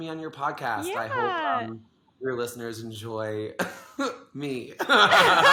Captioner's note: both laugh; laughs